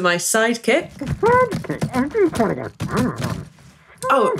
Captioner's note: sound of muffled voice protesting